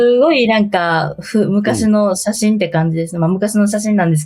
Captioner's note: laughs